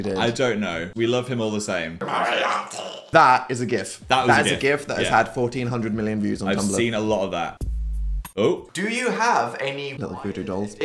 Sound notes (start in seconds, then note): 2.0 growling; 7.5 seductive music